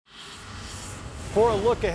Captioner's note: whoosh